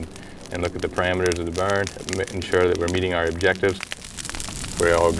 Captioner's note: fire crackling